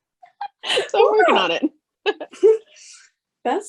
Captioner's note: laughs